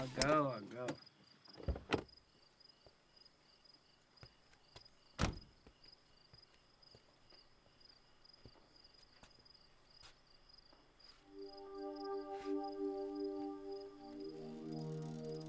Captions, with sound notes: I'll go, I'll go. (door thuds) (gentle music)